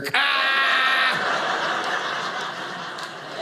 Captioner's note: audience laughing